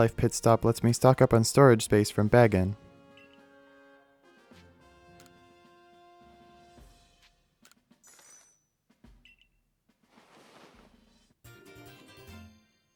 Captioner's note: long pause